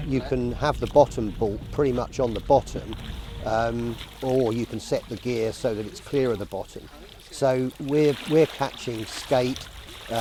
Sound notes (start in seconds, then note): none